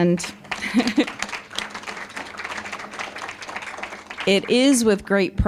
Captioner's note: applause